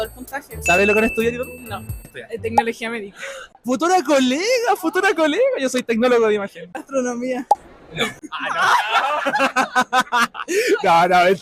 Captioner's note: laughs